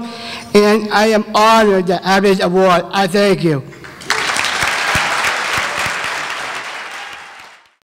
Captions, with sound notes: and I am honored to have this award, I thank you. (applause)